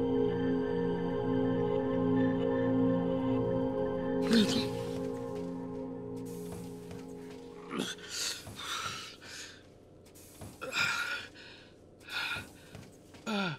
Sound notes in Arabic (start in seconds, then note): 4.3 همهمات; 10.6 يلهث; 13.2 آهات